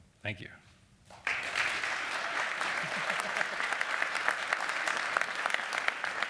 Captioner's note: applause